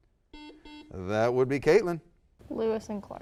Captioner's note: buzzer